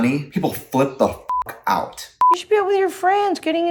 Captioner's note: beep